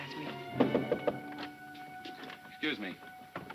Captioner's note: tense music; light knocking